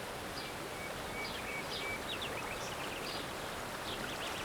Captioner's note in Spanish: salto de agua y pajarillos